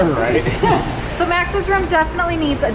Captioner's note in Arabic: كلاهما يضحك